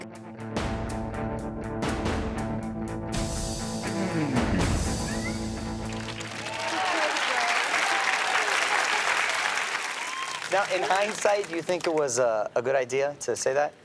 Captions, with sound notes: (dramatic music) (audience cheers and applauds) - Now in hindsight, do you think it was a good idea to say that?